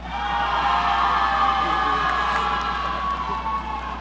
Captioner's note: audience cheering